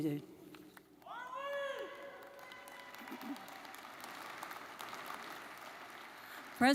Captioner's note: audience cheering and applauding